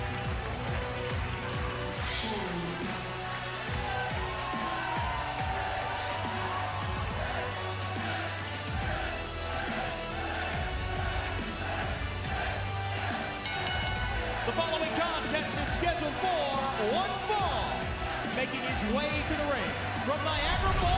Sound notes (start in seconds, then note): 8.2 fans chanting; 13.4 bell ringing